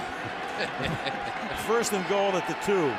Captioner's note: laughter